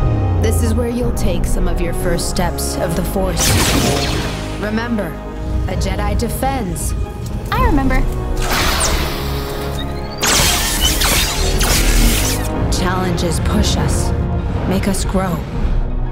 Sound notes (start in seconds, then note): 8.5 lightsaber crackling